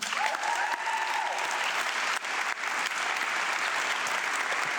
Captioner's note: audience clapping